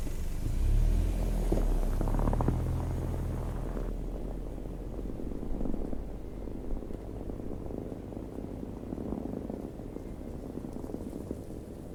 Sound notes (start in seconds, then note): 1.7 car tires on snowy gravel road